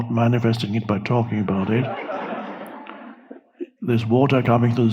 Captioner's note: audience laughing